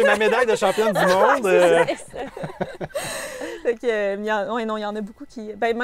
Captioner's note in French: rires